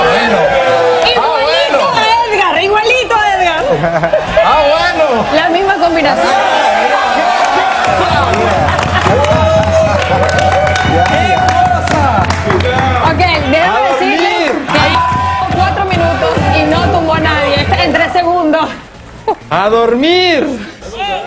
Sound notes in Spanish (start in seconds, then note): 16.1 aplausos